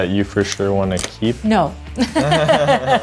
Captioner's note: laughs